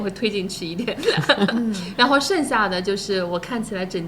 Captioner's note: laughter